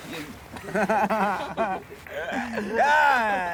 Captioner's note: laughing drunkenly